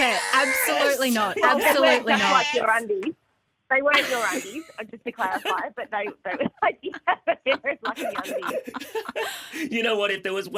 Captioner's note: laughter